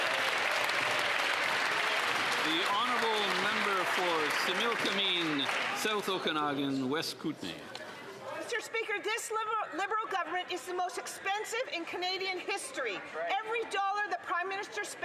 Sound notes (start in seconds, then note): 5.5 some Applause